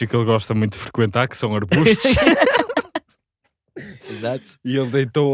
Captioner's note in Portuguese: risos